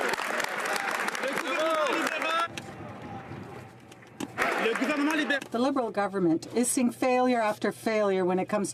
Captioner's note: some Applause